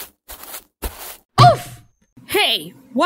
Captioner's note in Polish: Bonk